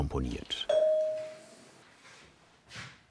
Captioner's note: individual bright sounds